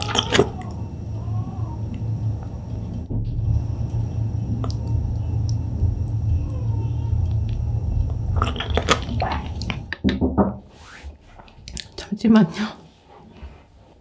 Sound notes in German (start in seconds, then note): 1.6 weinendes Geräusch...?; 9.8 Klopf, klopf, klopf